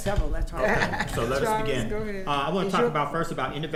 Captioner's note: laughing